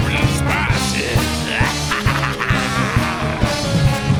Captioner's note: laughing